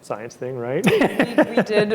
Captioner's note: chuckles